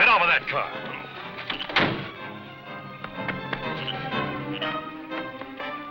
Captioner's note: car door slams; dramatic, orchestral music